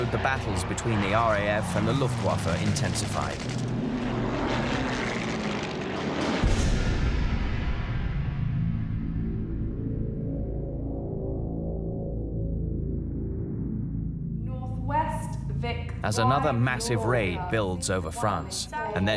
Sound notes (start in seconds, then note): 4.0 plane engine roaring